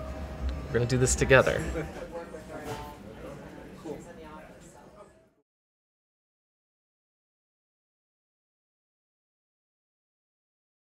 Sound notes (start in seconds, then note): 0.8 soft chatter in the background